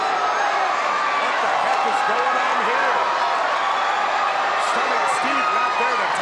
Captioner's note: presenter speaking faintly off mic